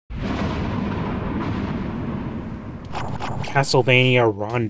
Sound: thunder Crashing

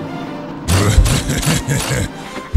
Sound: evil chuckle

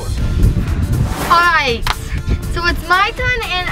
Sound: palms slapping

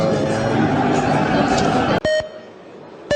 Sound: sounds of gong and people noise; sound of voting in Verkhovna Rada

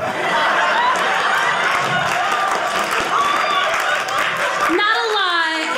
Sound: audience cheering

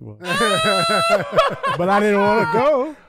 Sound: laughing

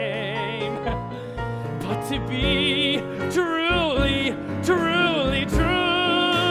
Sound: laugh

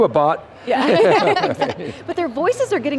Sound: laughter

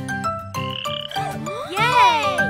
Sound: frogs croaking

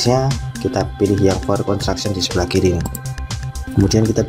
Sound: click

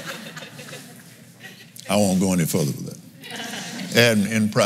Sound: laughs

